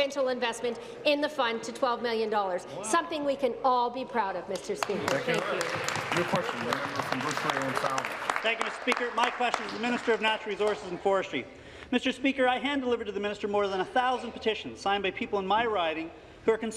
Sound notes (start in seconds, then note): 10.2 applause